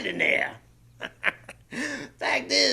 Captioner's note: laughs